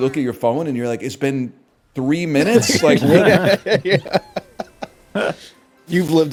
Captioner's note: laughs